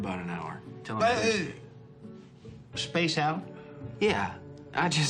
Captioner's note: groans